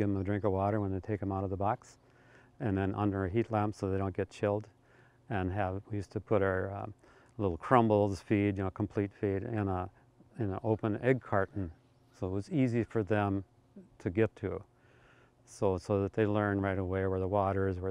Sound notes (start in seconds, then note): none